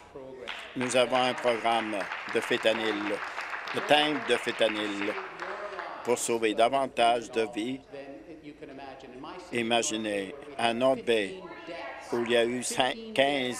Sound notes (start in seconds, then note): 6.1 applause